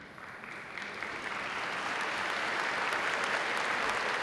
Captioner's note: audience applauding